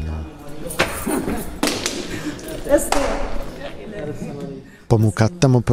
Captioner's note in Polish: Dźwięk wchodzenia do budynku